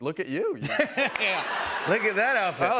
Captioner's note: laughter